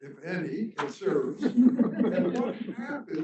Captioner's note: crowd chuckling